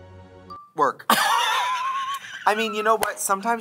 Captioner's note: Katya laughs